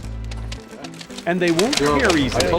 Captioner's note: money snapping taut